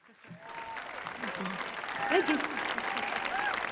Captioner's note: audience applauding